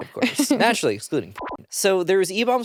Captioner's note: beep